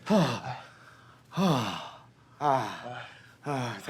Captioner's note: grunting